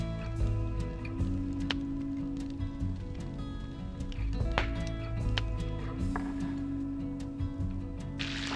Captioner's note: gentle music; scallops sizzle